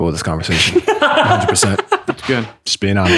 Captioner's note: laughter